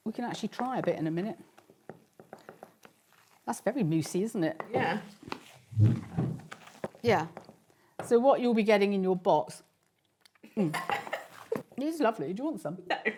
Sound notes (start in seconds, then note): 10.5 laughs